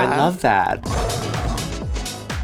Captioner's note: lion roaring; upbeat music